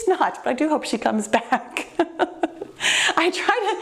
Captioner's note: laughing